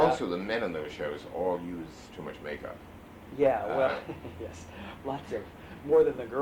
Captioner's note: laughs